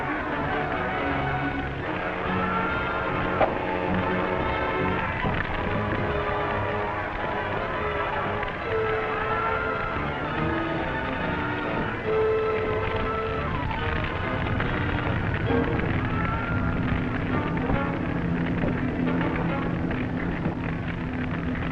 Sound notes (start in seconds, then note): 0.2 passengers yelling in the distance; 4.4 fire crackling